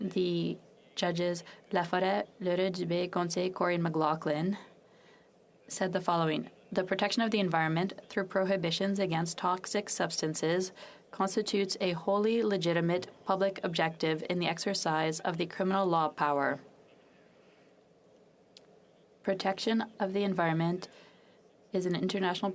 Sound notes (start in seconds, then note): 7.4 speaking French